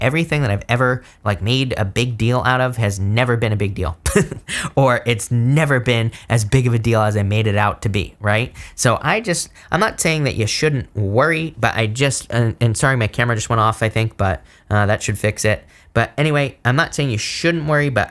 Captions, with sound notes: everything that I've ever like made a big deal out of has never been a big deal, (chuckles) or it's never been as big of a deal as I made it out to be, right? So I'm not saying that you shouldn't worry, but I just, and sorry, my camera just went off I think, but that should fix it. But anyway, I'm not saying you shouldn't worry,